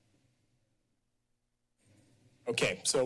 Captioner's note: silence